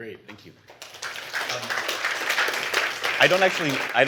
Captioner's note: applause